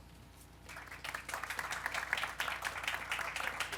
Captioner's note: applause